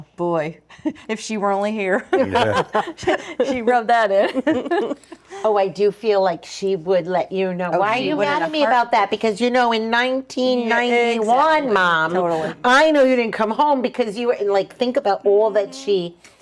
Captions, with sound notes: Boy, if she were only here. (laughing) She rubbed that in. Oh, I do feel like she would let you know. Why are you mad at me about that? Because you know, in 1991, mom. I know you didn't come home because you were like, think about all that she.